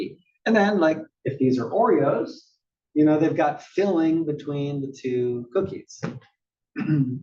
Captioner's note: cough